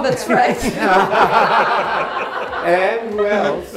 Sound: laughing

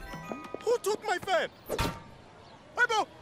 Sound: clanging

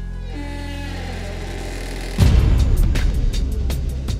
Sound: door sounds and closes

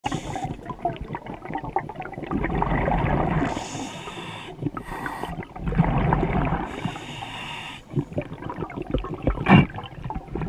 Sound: scuba diver breathing

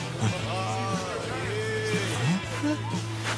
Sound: surfers chattering

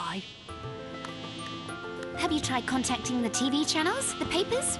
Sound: fly buzzing; gadget clicking

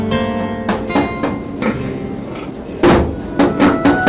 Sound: pig oinks; thudding

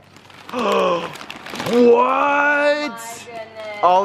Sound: gasps

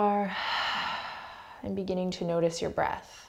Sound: heavy breathing

